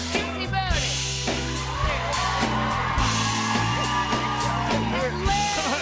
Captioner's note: cheers and applause